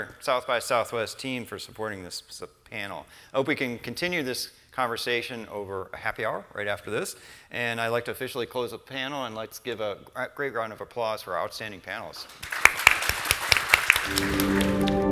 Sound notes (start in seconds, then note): 9.4 audience applauds; 11.7 gentle music